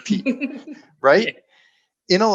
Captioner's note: laughing